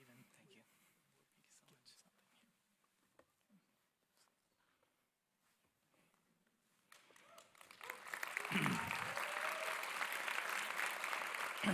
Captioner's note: applause